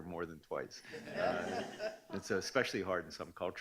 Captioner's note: laughing